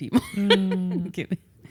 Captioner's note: laughs